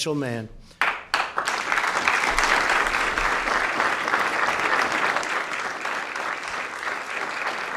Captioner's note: applause